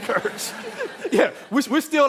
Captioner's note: all laughing